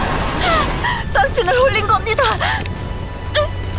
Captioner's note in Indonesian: menangis